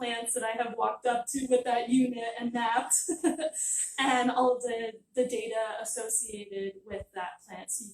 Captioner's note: laughter